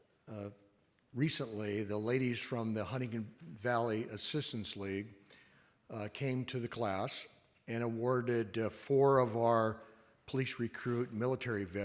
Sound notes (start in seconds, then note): none